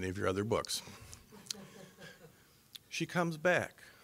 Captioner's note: scattered laughing